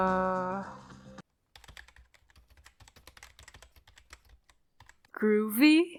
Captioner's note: typing